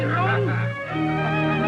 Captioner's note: speaking spanish; classical music; laughs